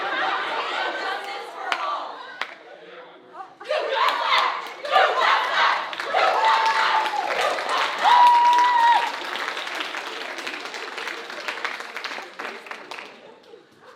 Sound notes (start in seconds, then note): 8.5 audience cheering